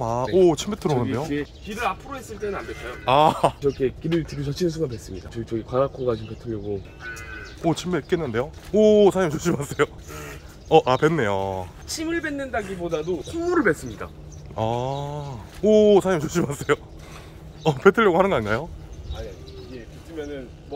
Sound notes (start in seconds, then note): 10.0 spitting